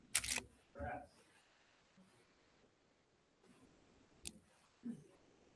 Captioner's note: camera shutter clicks